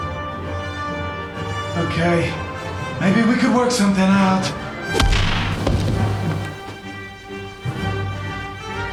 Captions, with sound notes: Okay... maybe we can work something out. (WHACK)